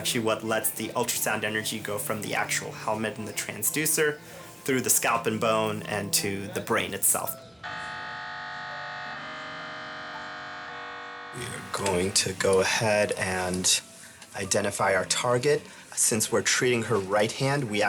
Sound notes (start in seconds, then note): 7.6 MRI machine whirring